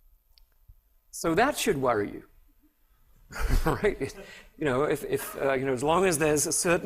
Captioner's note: laughter